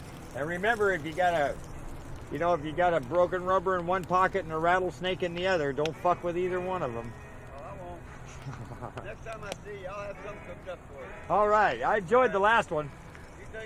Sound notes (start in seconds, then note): 8.3 chuckles